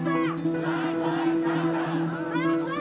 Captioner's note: crowd